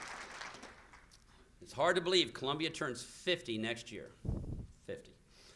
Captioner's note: applause